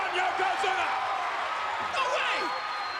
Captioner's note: spectators cheering